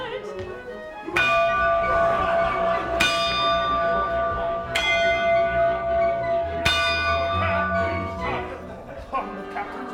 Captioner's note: bell ringing